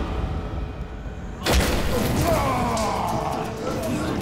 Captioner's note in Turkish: Dövüş sesleri; Bağırma sesleri